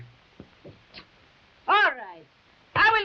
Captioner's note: lips smacking